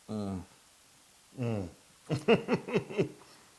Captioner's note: laugh